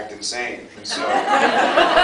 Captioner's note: laughs